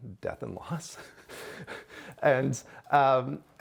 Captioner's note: chuckling